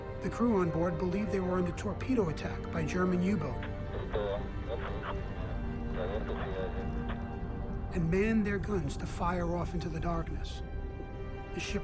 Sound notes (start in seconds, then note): 4.0 man speaking in foreign language